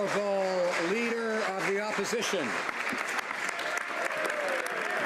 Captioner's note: some Applause